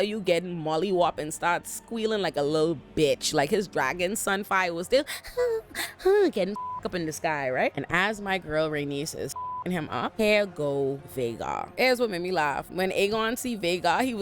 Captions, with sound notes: Black wheeling like a little bitch, like his dragon, Sunfyre was still (gasping) getting (beep) up in the sky, right? And as my girl Rhaenys says, "F***ing him up." Hair go, Vaygar. As what made me laugh, when Aegon see Vaygar,